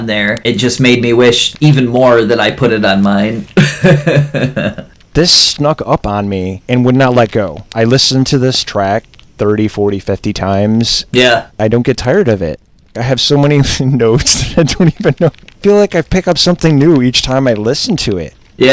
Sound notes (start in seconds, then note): 3.4 laughs; 13.6 laughs